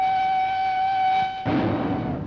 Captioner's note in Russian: звук выстрела